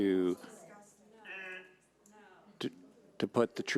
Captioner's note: overlapping chattering